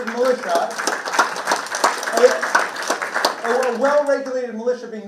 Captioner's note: participants clapping